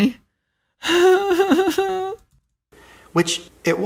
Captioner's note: nervous laughter